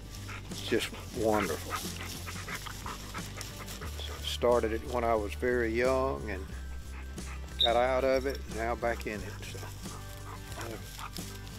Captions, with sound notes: It's just wonderful. (dogs panting) Started it when I was very young, and got out of it, and now back in it, so.